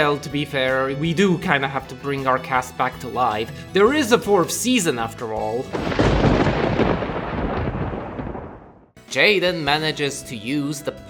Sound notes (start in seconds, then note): 5.7 thunderclap!